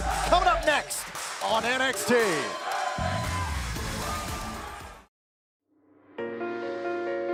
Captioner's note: crowd cheering